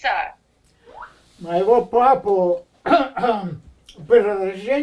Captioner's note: clears throat